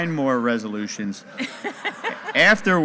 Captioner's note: audience laughing